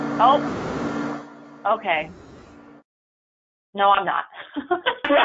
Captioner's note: loud audio interference